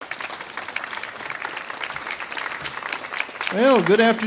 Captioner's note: audience applauds